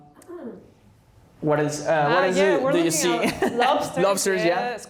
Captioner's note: laughter